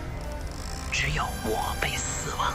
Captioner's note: galley creaking